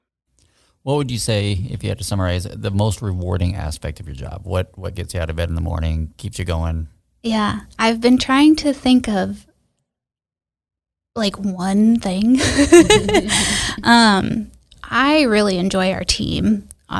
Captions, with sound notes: - What would you say, if you had to summarize it, the most rewarding aspect of your job? What gets you out of bed in the morning, keeps you going? - Yeah, I've been trying to think of like one thing (everyone laughs). I really enjoy our team.